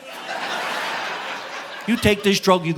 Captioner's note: audience laughing